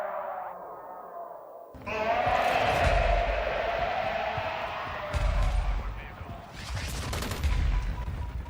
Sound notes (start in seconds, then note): 3.0 wind blowing; 5.0 explosions